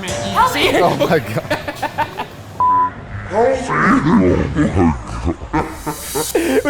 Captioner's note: laughing